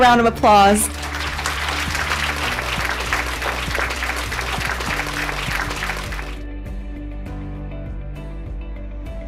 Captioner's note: applause